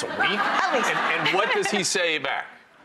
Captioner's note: audience laughs